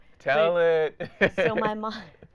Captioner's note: laughing